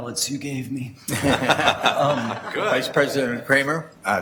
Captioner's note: laughs